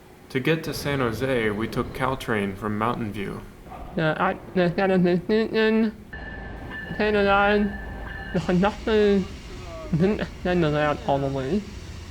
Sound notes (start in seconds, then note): 6.1 train dinging